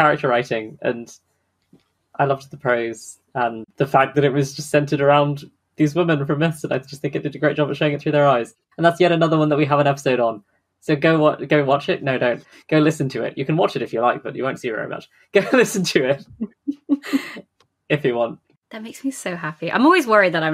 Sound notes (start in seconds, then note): 15.4 laughing; 15.4 laughs